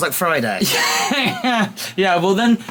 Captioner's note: laughing